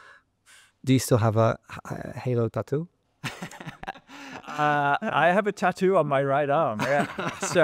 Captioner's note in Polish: śmiech